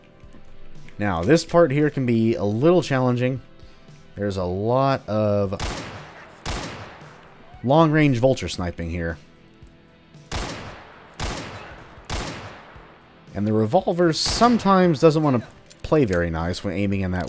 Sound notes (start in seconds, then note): 5.5 Colt firing